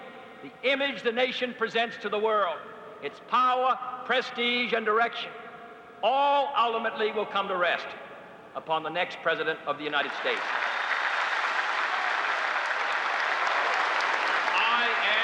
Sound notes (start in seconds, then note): 10.2 cheers and applause